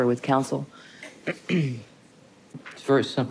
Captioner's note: clears Throat